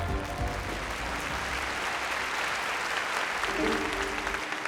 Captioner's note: cheering and applause